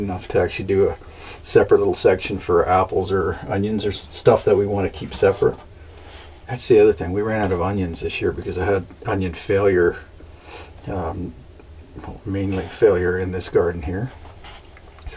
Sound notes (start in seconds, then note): none